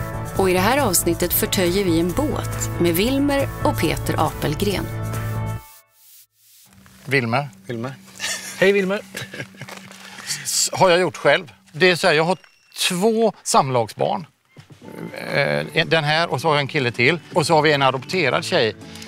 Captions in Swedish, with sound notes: Och i det här avsnittet förtöjer vi en båt med Wilmer och Peter Apelgren. – Wilmer. – Wilmer. – Hej Wilmer. [skratt] – Har jag gjort själv. Det är så här, jag har två samlagsbarn, den här och så har jag en kille till, och så har vi en adopterad tjej.